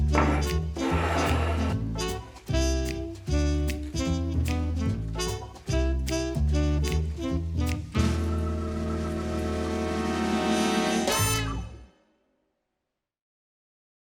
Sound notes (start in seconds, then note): 0.7 plate sliding